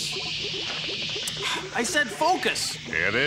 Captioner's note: sighs